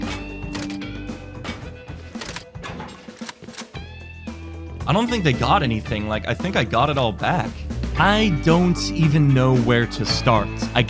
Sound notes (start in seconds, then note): 0.5 click; 1.4 plunk; 2.6 kerplunk; 3.1 click